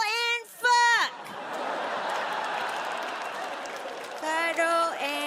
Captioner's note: audience laughs